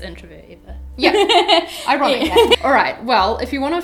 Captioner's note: laughs